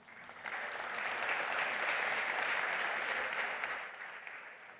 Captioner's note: audience applauding